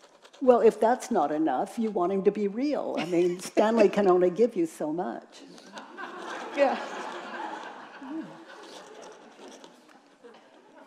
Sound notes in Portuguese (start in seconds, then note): 7.3 risos da plateia